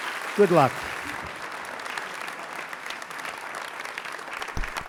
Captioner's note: applause